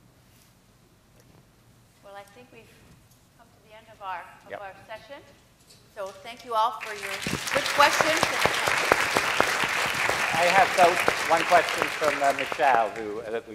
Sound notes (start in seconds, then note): 6.8 applause